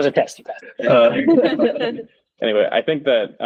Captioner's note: laughter